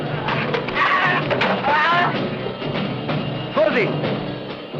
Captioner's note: screaming